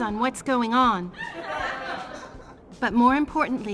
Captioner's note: audience laughing